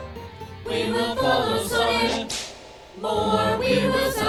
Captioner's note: cracks whip